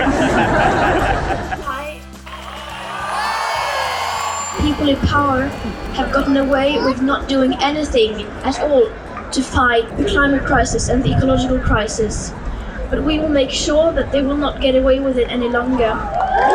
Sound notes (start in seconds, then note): 0.0 laughter; 1.7 cheering + applause